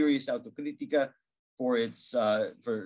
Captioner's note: speaking in Portuguese